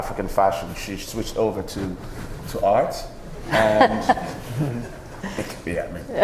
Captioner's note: laughing